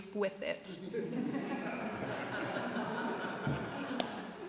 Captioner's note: laughter